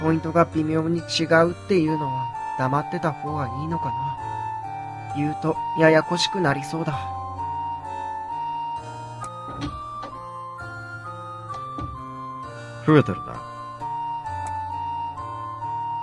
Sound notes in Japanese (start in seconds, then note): 9.2 扉の開く音：ガッチャン; 11.5 扉の閉まる音：バタン